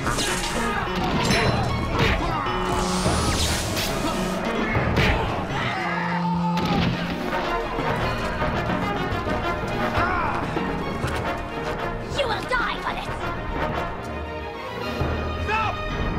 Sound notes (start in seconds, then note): 6.0 man yelling